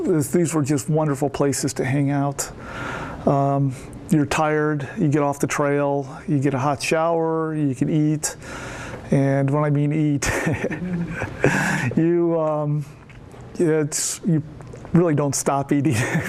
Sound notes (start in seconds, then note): 10.2 laughs